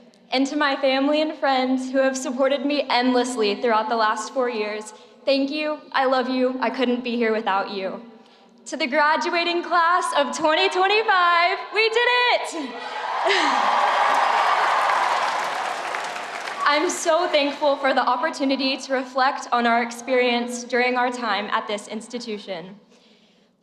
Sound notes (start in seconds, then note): 12.6 crowd cheering